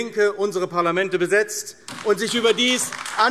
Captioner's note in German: Beifall AfD